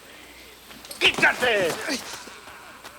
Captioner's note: Bruto yells in Spanish